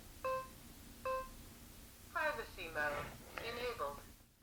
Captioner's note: beeping; digital Female Voice